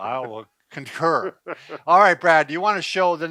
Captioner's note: laughter